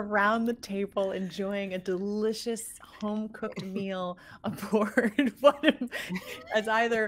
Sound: laughs

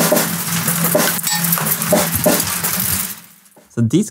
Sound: marbles hit the floor

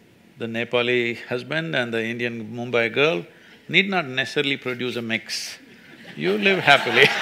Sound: laughter

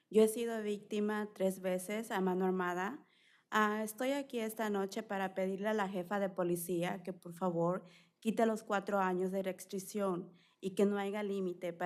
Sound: speaking spanish

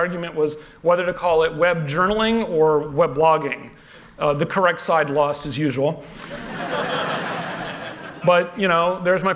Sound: laughter

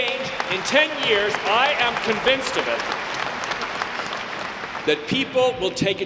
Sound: audience clapping

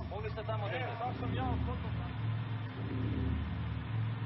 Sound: bus engine rumbling

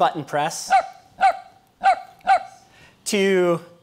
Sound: dog barking

